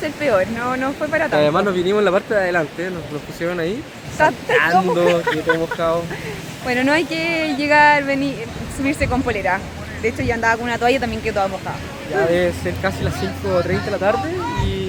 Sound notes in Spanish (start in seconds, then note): 4.4 risas